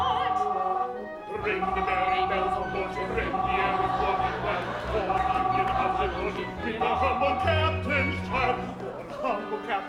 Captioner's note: phone ringing